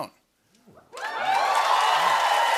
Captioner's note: cheers and applause